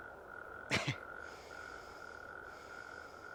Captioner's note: laughing